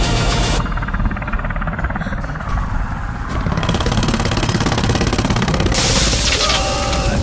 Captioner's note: rescue helicopter approaching; devastation roaring as people run